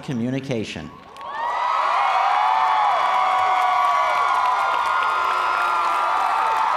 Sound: cheers and applause

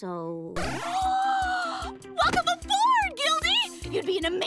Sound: squeals

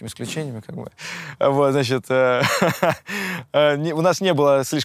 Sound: laughs

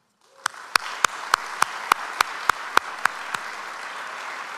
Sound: audience applauds

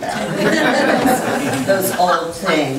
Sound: group laughs

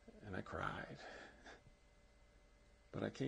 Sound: laughs

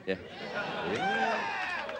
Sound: audience cheering

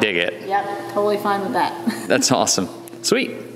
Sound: laughs

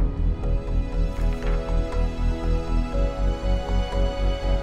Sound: gentle music; slide flips; gentle music

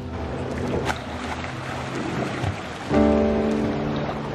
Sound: water splashing; slow music

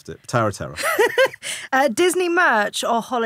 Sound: laughing

